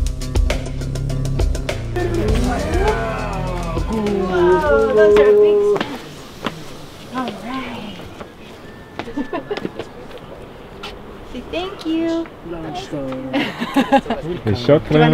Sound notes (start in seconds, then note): 9.0 laughing; 13.3 laughing